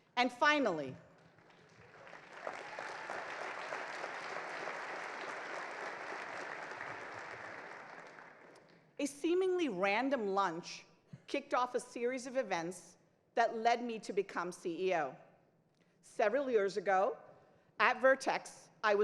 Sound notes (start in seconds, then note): 1.6 crowd cheers; 3.5 crowd applauds